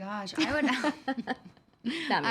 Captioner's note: laughing